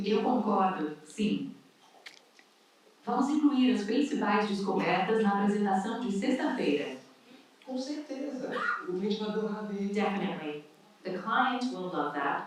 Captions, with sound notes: Spanish translation (different languages spoken) Definitely the clients will love that.